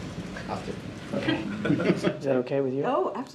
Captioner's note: laughter